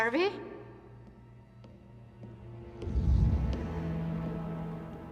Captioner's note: footsteps tapping